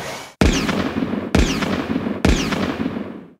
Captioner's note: shotgun sounds